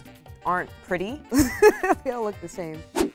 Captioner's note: speaker laughs